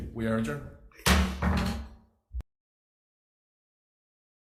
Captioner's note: gavel thudding